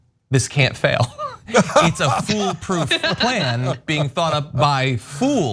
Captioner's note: laugh